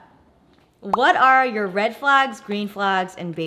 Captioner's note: bubble pops